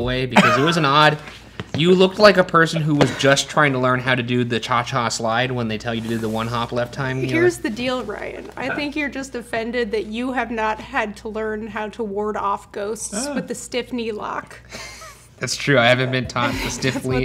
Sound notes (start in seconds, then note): 14.7 wheezes